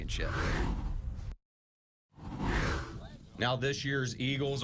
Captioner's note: air whooshes